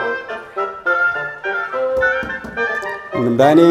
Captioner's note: knocks on door